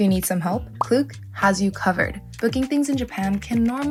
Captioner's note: graphic pops